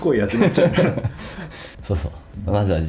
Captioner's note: laughs